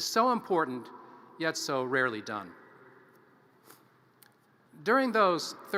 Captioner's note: none